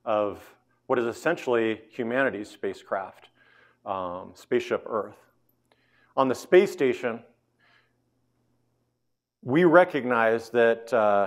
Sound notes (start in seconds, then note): none